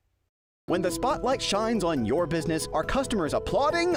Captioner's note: voiceover